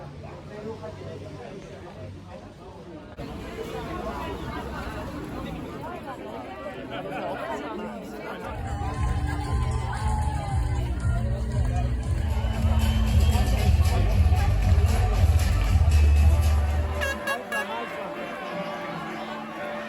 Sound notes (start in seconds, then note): 4.8 people talking; 10.6 cheering & music playing